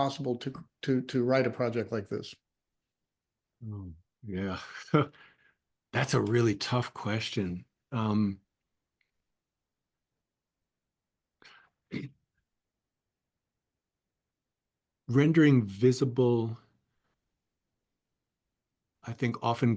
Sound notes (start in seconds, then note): 4.6 laugh